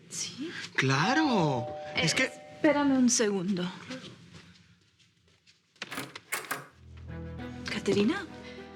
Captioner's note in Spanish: Timbre de la puerta